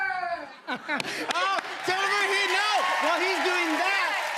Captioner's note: cheers and applause